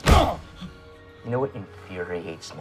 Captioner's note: thud